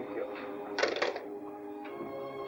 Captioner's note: phone clatters into receiver